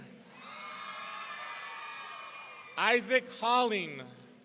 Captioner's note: audience cheering